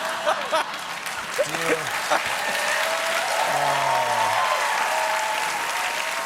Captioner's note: laughter; cheers and applause